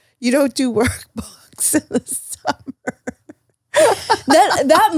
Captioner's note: laughs